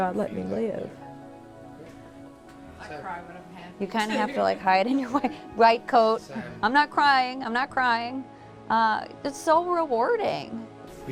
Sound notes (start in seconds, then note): 4.8 laughing